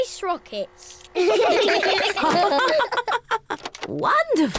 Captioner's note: all laugh